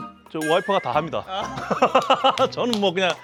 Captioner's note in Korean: 웃음